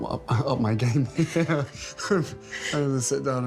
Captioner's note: Harry chuckles